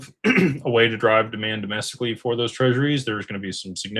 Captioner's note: clears throat